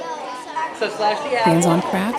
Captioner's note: people chatting